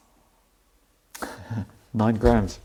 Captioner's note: laughs